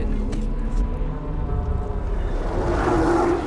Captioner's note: loud roar